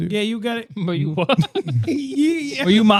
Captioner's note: laughing